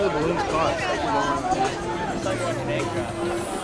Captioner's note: crowd talking